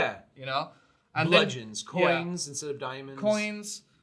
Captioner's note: none